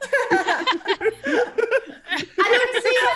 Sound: laugh

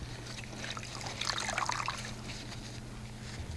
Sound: water splashing

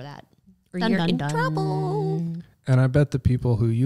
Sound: scary sound

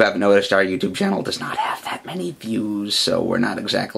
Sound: whispering

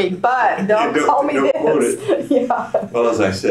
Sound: laughter; laughs

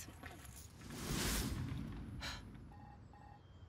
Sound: ringing

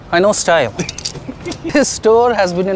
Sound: guy laughs

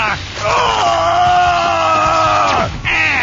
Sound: groans loudly

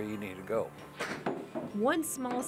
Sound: footsteps

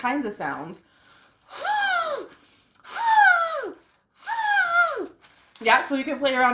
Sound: zzzzoooooo

